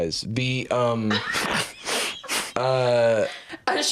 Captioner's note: laugh